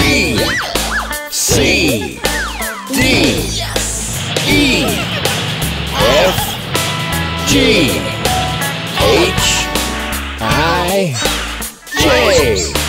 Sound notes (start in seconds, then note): 6.4 trucks giggling